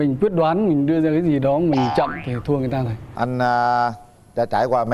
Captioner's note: none